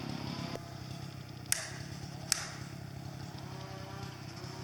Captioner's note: ax smacking